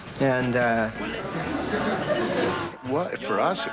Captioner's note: audience laughter